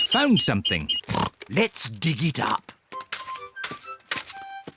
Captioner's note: oinks